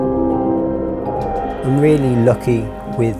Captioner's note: laughing; muffled chattering